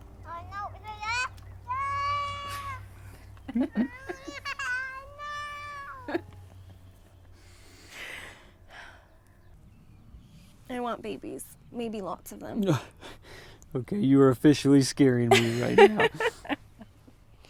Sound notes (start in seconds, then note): 0.1 baby chattering; 3.3 laughing; 3.6 baby crying; 7.5 Hope sighs; 15.3 laughs